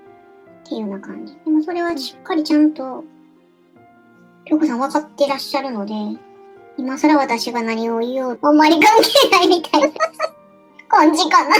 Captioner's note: laughs